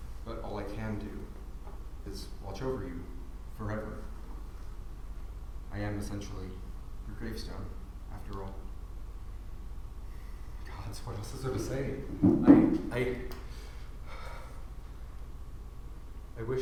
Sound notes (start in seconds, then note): 14.1 sigh